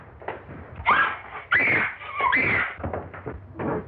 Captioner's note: women screaming